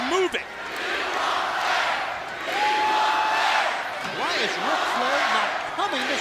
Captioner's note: crowd cheering